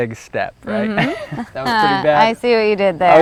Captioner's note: laughing